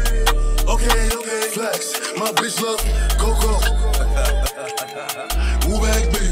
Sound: haha

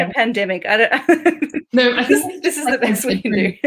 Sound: laughs

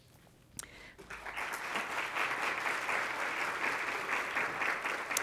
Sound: audience applauds

